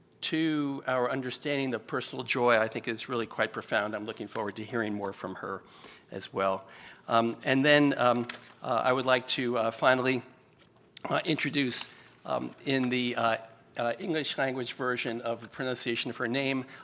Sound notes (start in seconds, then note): none